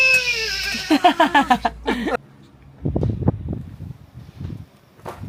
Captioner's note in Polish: śmiech